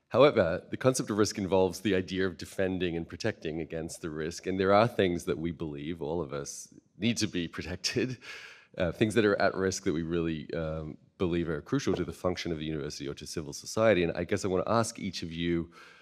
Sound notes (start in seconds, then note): none